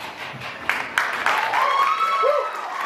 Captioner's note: applause